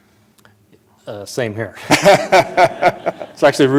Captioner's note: laughter